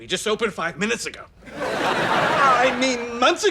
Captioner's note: laughs